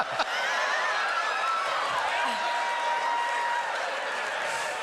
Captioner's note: whooping